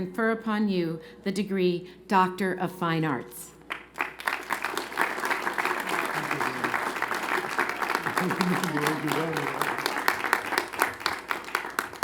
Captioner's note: applause